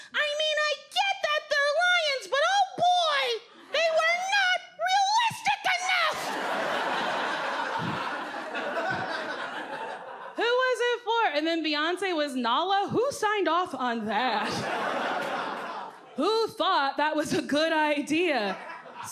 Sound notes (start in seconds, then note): 6.1 audience laughing; 14.4 audience laughs